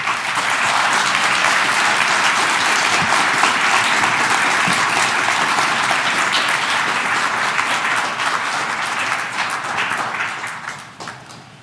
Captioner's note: applause